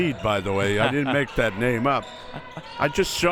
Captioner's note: laughs